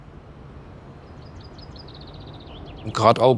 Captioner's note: birds chirping